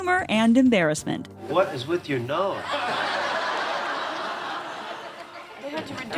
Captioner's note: studio audience laughs